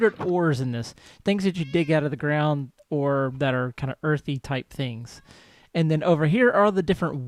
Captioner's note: cat meows